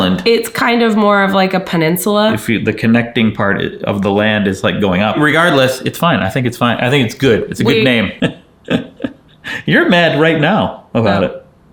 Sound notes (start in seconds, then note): 8.6 chuckling